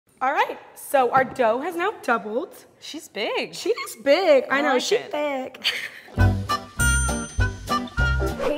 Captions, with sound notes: - All right, so our dough has now doubled. - She's big! - She is big. - I like it. - I know, she thicc. (giggles) (jaunty jazz music)